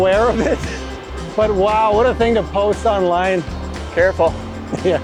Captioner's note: laughing